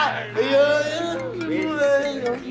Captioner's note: laughs; drunk man babbles; cell phone ringing